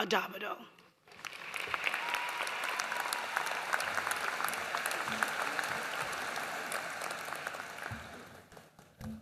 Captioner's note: applause